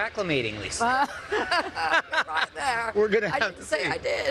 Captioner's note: laughs